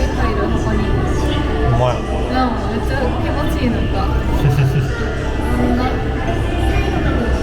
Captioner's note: laughs